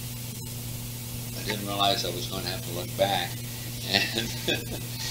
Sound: laughs

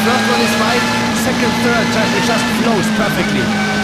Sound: traffic!

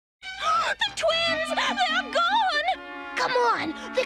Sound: gasps

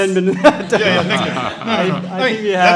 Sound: audience laughs

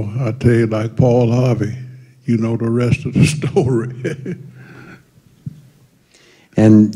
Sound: laughter

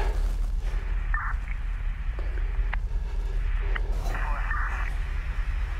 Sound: police radio chatter

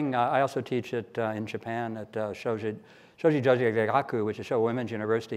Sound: speaks in foreign language

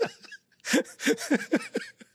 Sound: laughs

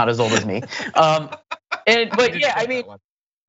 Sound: laugh

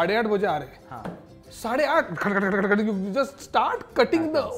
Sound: fake chopping noise

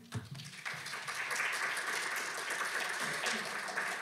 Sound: audience claps

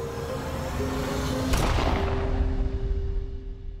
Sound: suspenseful music; gunshot

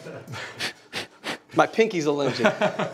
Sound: blows

